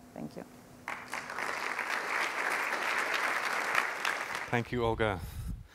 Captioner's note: applause